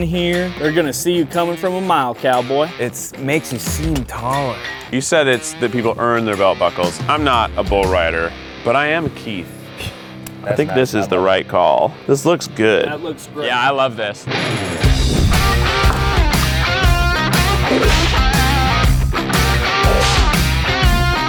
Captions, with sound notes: They're gonna see you coming from a mile, cowboy. - It makes you seem taller. - You said that people earn their belt buckles. I'm not a bullrider. But I am Keith. I think this is the right call. This looks good. - That looks great. - Yeah, I love this. (upbeat country music) (whip cracking)